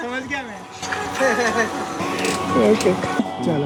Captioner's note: laughing